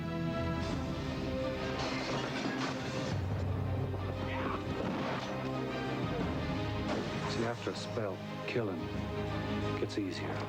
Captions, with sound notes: [plates shattering] >> Yah! [gunshot] [gunshot] >> You see, after a spell, killin' ... gets easier.